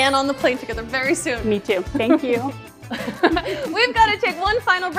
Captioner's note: laughs